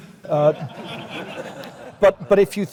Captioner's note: laugh